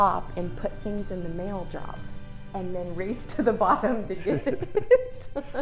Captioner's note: laugh